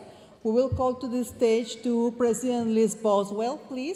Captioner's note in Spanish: hablando en inglés